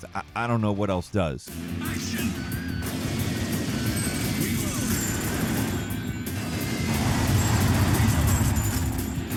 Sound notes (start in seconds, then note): 1.4 fast paced rock music; 1.7 gunshots echoing